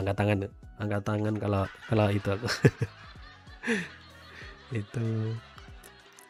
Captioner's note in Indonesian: tertawa